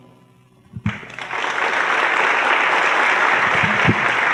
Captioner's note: applause